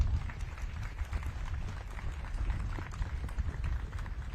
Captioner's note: audience claps